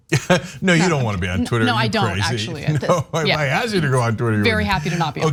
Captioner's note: laugh